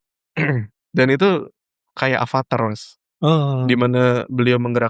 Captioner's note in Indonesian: berdehem